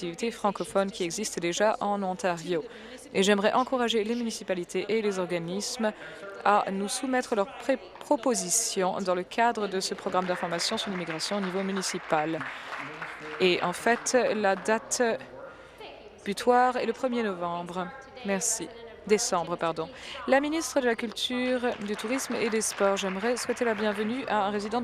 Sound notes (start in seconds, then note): 14.3 applause